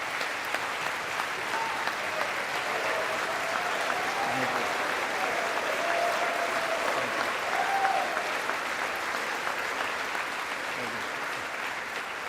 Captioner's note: applause